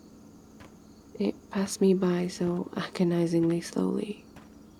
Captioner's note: footsteps stop